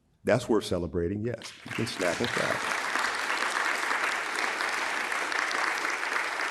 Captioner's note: audience applauding